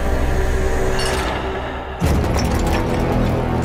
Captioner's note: clanking of machinery